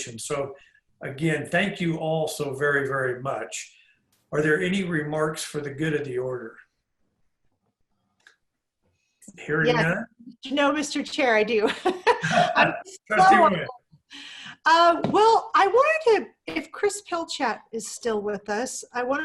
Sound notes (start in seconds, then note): 11.6 laughter